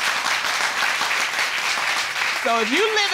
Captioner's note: audience applauding